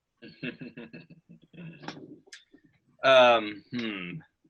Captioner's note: chuckles